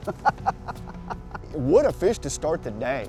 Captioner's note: laughter